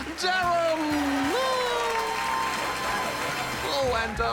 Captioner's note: cheering, applause